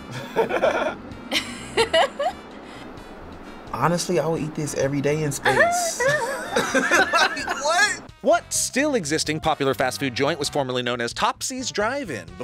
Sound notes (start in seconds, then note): 0.0 both laugh; 5.5 group laughs